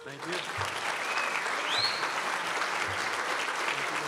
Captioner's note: crowd applauds